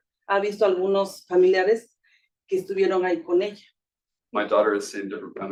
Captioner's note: speaking Spanish